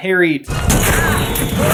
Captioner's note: slam